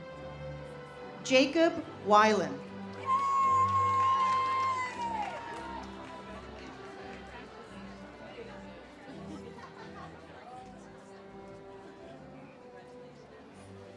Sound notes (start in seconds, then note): 3.0 audience cheers; 8.4 ceremonial music